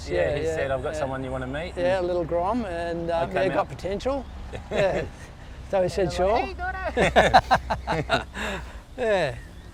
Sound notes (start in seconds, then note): 4.5 laughs; 6.4 in a high pitched voice; 6.8 laughs